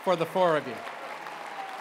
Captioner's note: applause